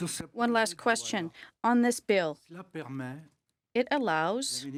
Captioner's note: speaking French